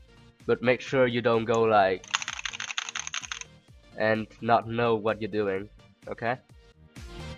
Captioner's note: intense keyboard mashing stuff and things